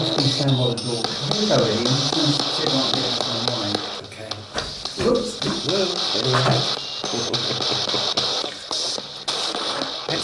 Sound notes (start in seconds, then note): 2.4 ghost box buzzing drowns out speaking